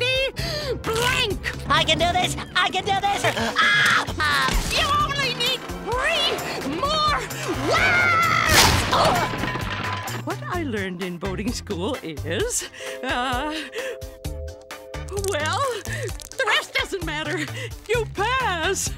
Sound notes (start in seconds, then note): 3.5 screaming